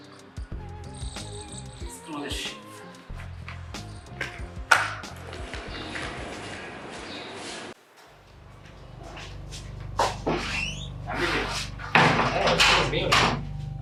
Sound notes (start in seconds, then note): 1.6 whispers angrily; 11.0 murmuring angrily